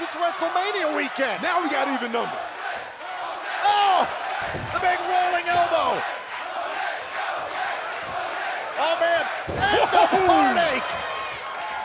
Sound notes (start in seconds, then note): 7.3 fans chanting